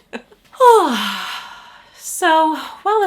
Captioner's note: sighs